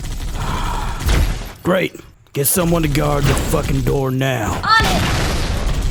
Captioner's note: sigh